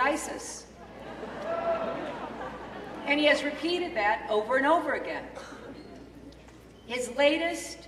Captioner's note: laughter